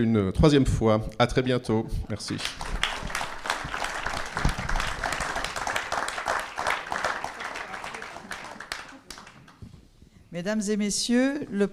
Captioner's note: applause